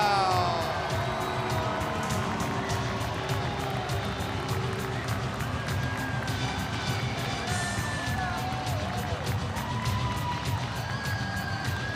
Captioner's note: crowd cheering